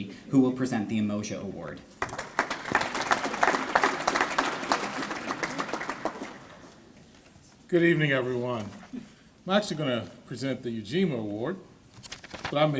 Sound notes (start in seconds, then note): 2.0 applause